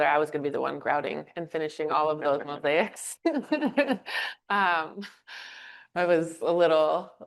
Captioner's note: chuckles